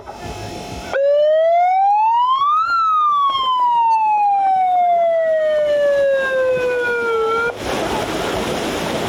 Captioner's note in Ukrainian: звук сирени, що сповіщає про старт змагань